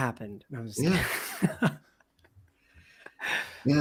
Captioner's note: chuckling